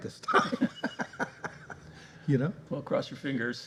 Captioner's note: laughter